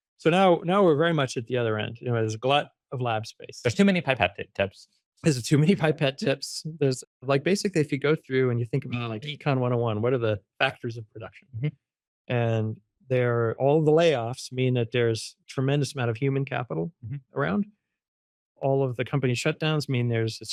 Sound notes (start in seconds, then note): 5.3 laughs